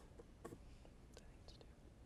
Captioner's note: whispering